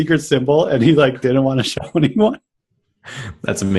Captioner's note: laughs